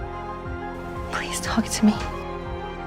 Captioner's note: voiceover